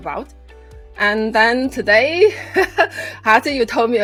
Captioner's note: laughs